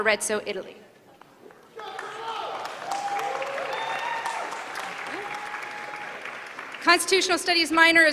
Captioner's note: applause